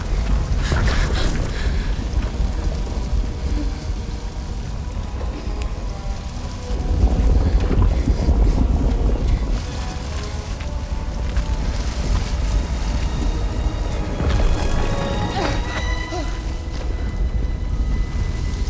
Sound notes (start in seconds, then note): 0.3 gasp; 15.0 grunts